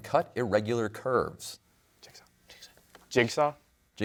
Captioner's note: whispers